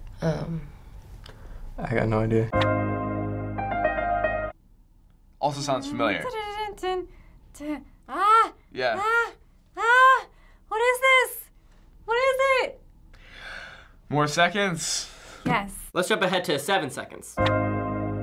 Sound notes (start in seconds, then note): 2.4 piano playing; 6.9 humming tune; 17.4 piano and synthesizer playing